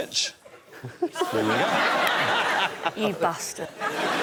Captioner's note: laughter